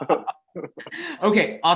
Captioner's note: both laughing